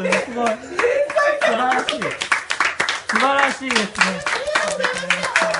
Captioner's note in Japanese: 爆笑しながら